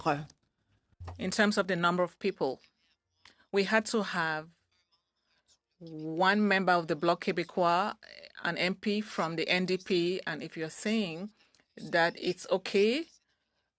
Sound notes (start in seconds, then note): 1.9 speaking French; 10.6 speaking French